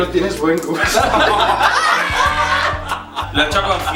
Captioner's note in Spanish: Risas